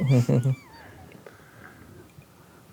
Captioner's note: players chuckle